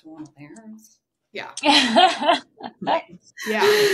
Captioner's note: laughing